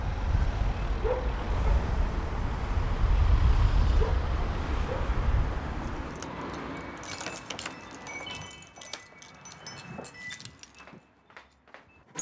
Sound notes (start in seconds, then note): 7.9 wind chimes